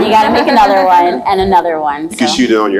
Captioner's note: laughs